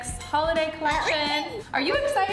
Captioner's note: Stormi babbling